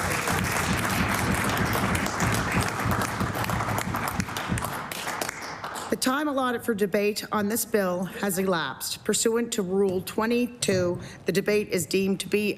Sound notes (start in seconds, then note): 3.6 applause